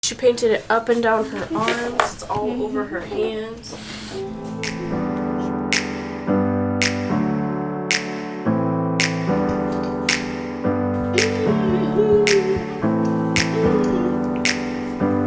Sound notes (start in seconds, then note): 4.7 upbeat music; 11.0 humming